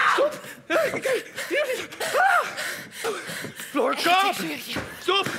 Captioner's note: makes painful moans